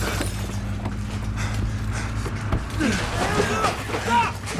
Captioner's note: engine revving